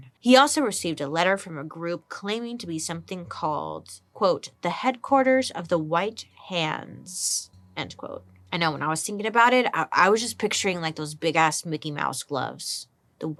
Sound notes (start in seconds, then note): none